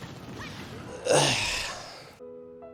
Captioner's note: loud sigh